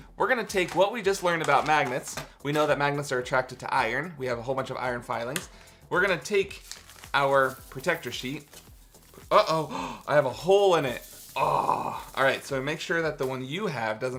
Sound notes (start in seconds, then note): 11.3 groans